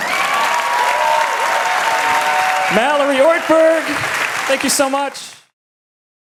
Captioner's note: applause